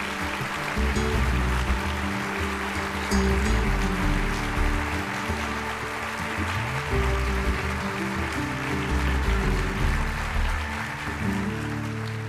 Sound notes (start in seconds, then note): 2.7 applause